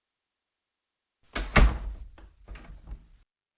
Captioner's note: Dorm door closes